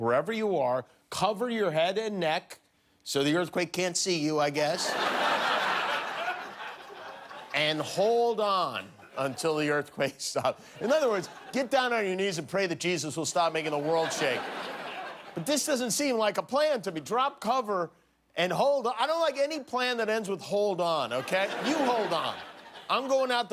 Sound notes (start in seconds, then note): 7.5 laughter